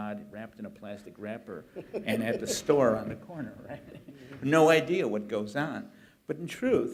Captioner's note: laughter